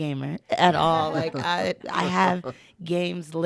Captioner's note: laughing in unison